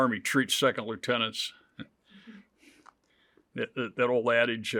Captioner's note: chuckles